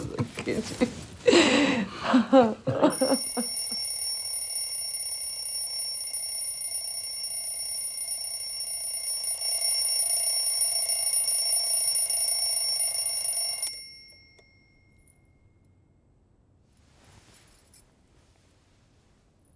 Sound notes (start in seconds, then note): 2.9 alarm clock ringing